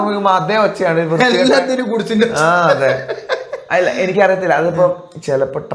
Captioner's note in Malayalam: പൊട്ടിച്ചിരി